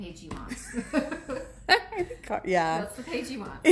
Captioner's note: laughs